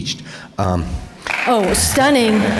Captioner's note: audience applause